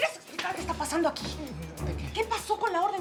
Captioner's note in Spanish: Palmada